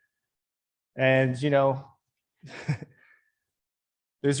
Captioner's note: laughing